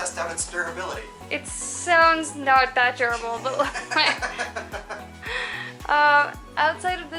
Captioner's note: laughter